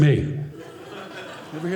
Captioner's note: audience laughing